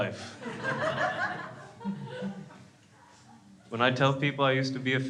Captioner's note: crowd laughs